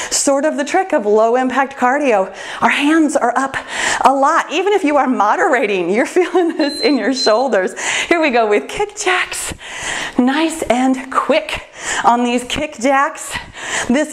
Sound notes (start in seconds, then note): 6.5 timer beeps